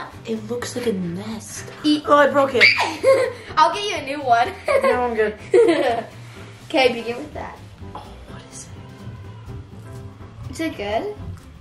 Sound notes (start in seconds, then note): 2.6 screams; 5.4 giggles